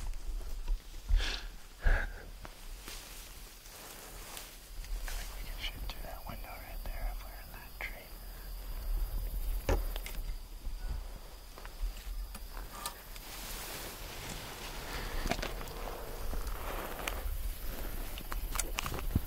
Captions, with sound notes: [Laughing] We can shoot through that window right there, if we're in that tree.